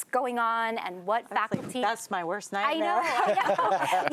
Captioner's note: laughter